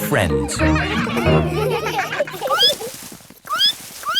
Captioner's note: all laughing; squeaking